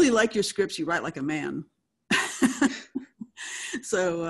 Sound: laughs

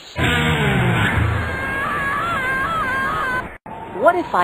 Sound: screaming

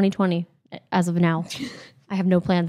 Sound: laughs

